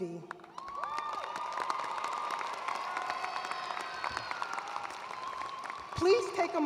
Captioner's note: attendees cheering and applauding